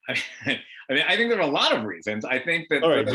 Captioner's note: laughs